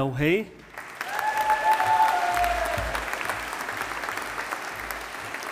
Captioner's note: audience applauding